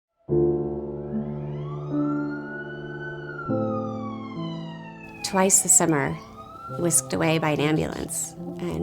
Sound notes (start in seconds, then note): 1.5 siren ringing; 5.4 voiceover